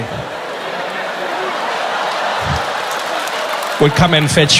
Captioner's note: laughter